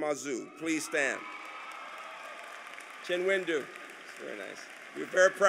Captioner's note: applause